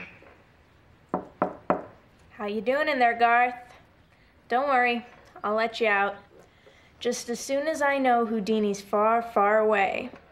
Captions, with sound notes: (door knocks) - How you doing in there, Garth? Don't worry, I'll let you out. Just as soon as I know Houdini's far, far away.